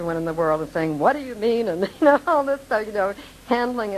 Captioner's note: laughing